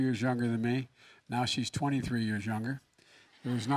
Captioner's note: laughter